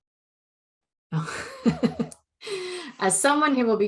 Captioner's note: laughing